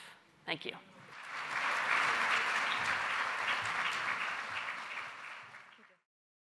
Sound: applause

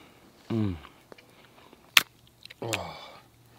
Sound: moaning

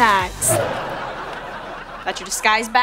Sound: laughing

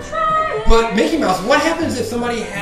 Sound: voiceover

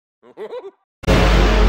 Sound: butter man's laugh

